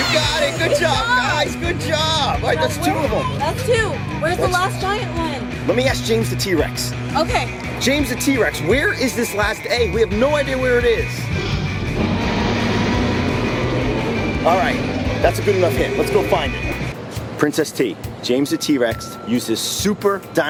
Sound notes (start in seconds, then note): 11.2 roars